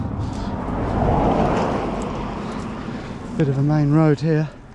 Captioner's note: cars whooshing